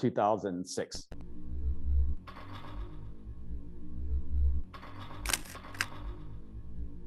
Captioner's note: machine clattering; machine whirring; camera clicking